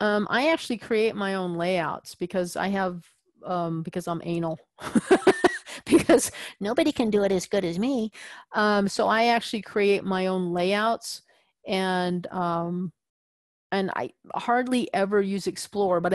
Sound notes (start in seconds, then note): 5.0 laugh